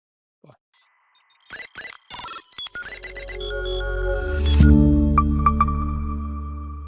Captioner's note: high robotic squeaks; bubbly outro music